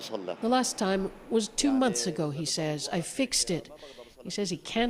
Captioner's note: speaking alternate language